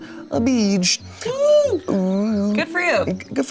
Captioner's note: cheers